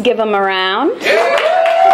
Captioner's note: cheering